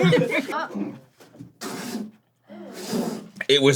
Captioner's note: spits